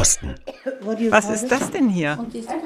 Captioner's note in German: englisch